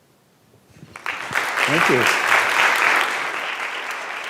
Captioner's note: audience applauds